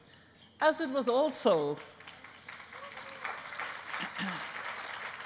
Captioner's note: applause